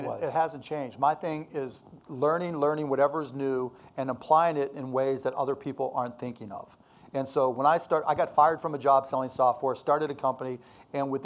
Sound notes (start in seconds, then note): none